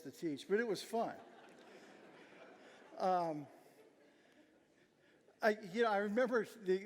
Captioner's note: audience laughing